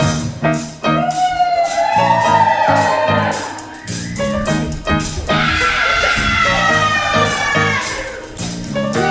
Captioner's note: audience cheer